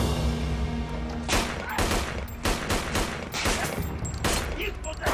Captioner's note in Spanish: Disparos